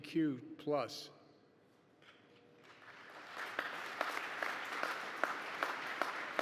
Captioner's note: applause